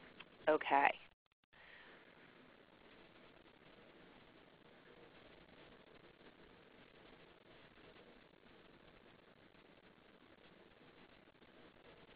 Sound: silence

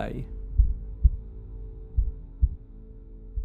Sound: heartbeat

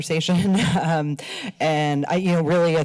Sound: laughs

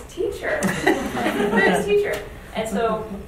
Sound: audience laughs

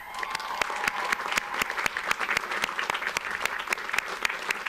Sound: audience applauds

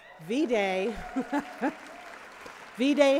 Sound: cheering

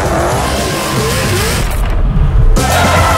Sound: skrrtt

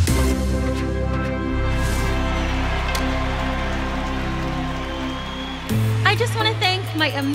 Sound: crowd cheers

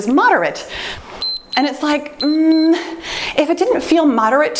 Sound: timer beeps

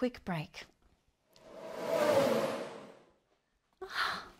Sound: F1 car noise

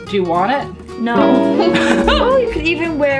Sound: laugh

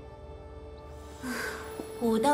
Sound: sigh

